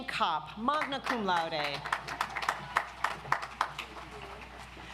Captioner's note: audience applauds